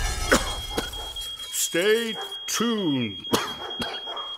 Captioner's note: coughs